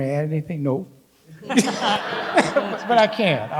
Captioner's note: people laughing